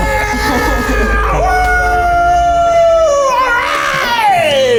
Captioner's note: screams